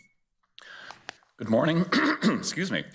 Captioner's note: clears throat